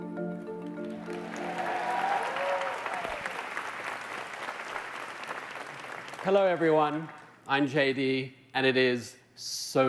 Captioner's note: applause